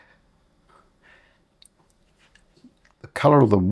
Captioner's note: silence